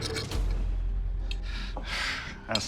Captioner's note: all sigh